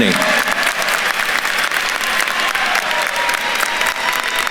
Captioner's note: attendee applauding